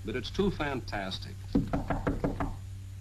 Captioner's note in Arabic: طرق الباب